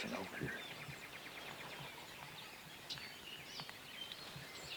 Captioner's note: birds tweeting